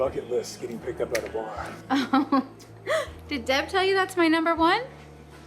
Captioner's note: laughs